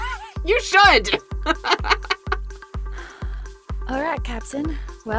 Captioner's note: laughs